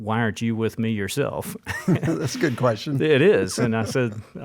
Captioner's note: both laugh; laughs